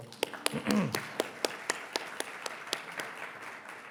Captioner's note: everyone applauding